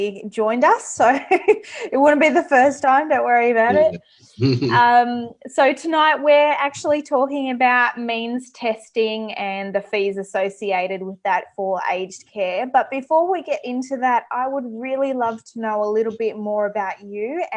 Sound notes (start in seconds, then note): 4.4 laughs